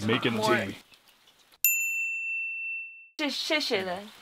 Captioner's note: a bell rings; speaking in foreign language